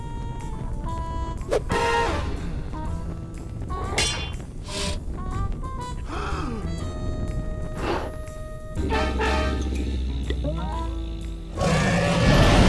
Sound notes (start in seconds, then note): 6.0 gasps; 6.9 blows softly; 8.7 growls; 11.4 dragon roars